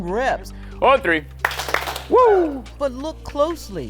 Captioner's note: claps hands